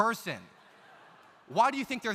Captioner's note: audience laughs